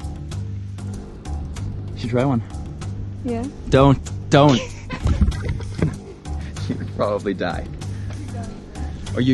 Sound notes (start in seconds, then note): 4.3 laughs